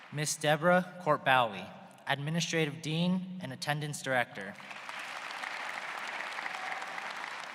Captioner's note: applause